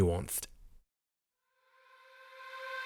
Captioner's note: voiceover